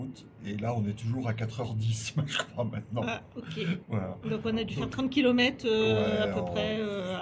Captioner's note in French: rires